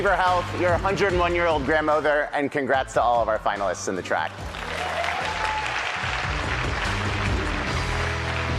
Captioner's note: applause